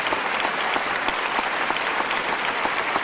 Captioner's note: applause